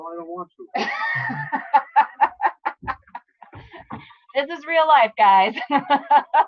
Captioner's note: laughs